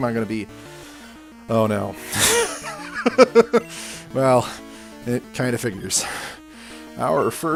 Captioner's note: laughs